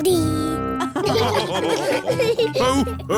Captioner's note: all laughing